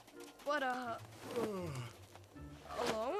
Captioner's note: Dylan yawns